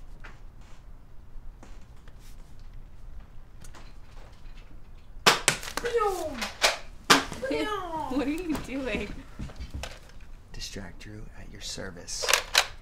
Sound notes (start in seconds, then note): 5.2 fake gun noises